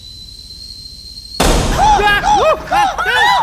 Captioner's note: steam blowing; explosion booming; Wendell squawking